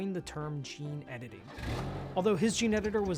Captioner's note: vehicle engine revving